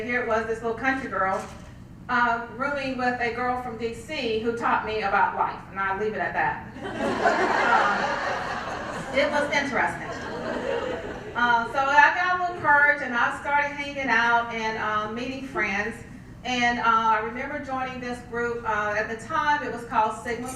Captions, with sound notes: Here it was this little country girl really with a girl from DC who taught me about life. And I'll leave it at that. [LAUGH] It was interesting. So after I was encouraged and I started hanging out and meeting friends. And I remember joining this group, at the time it was called Sigma Star.